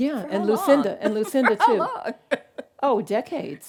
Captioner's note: laughs